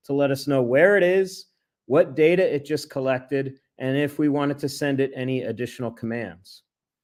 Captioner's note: none